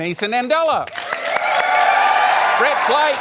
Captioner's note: cheering, applause